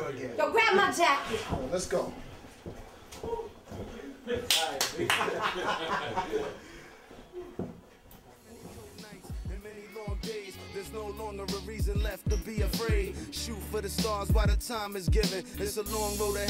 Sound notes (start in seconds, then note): 4.9 laughing